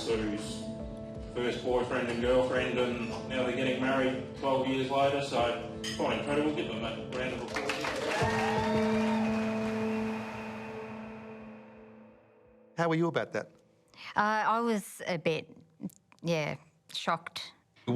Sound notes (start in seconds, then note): 7.6 audience cheering